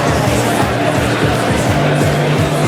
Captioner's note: audience clapping